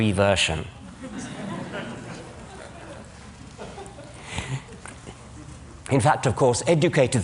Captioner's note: laughter